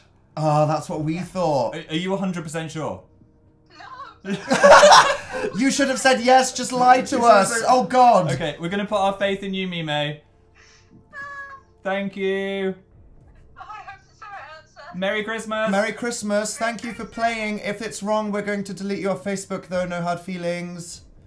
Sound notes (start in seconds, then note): 4.2 laugh; 11.0 distressed sounds